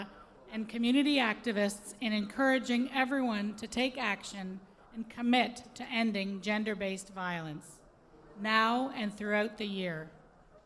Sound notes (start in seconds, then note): none